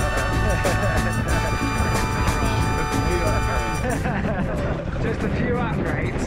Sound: laughs

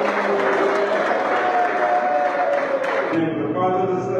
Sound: applause

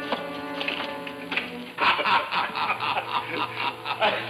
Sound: men laughing

